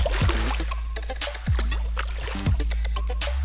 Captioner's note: splashing